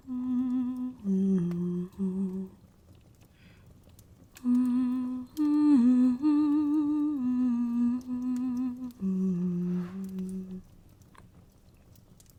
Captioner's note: humming